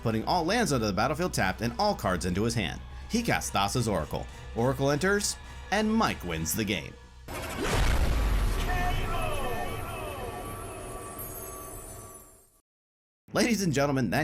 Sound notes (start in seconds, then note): 7.3 transition bang; 8.2 echoing; 11.5 magical shimmering